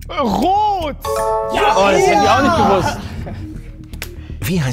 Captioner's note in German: Klingeln, freudige Laute